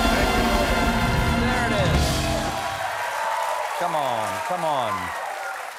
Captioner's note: applause